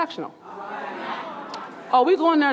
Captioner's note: audience murmuring